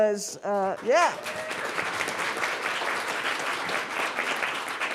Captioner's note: class applauds